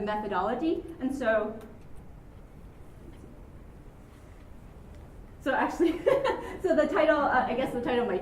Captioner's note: chuckles